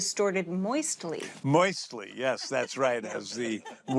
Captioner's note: laughs